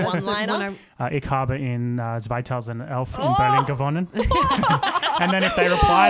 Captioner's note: speaking German; laughter